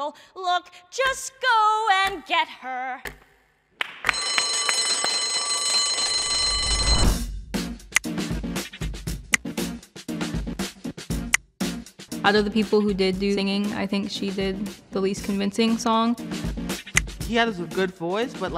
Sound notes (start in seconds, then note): 3.8 clapping; 4.1 bell ringing